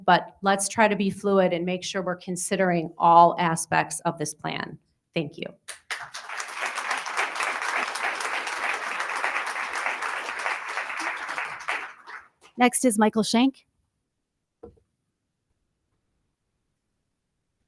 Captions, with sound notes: but let's try to be fluid and make sure we're considering all aspects of this plan. Thank you. (attendees applauding) >>Next is Michael Shank.